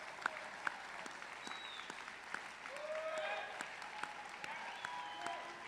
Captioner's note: applause